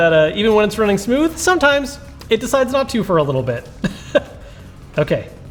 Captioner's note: laughs